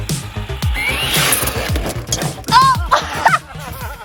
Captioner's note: wheels spinning; crashing; laughing